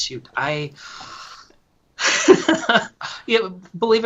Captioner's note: laughs